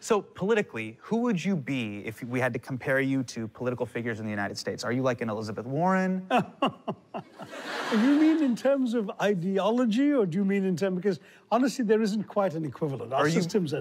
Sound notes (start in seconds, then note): 6.3 laughs